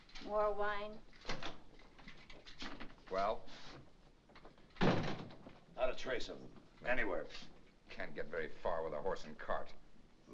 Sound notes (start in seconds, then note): 1.2 door opens; 4.7 door closes